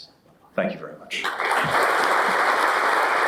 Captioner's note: applause